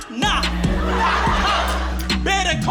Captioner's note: laughter